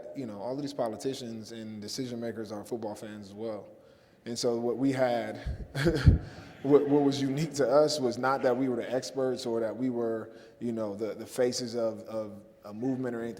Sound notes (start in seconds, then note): 5.5 laughs